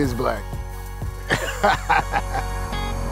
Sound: laughing

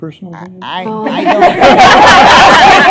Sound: laughter

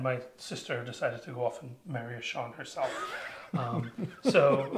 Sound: laughs

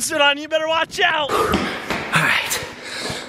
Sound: panting

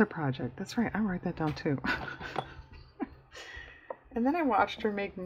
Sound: laughs

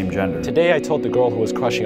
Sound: voiceover

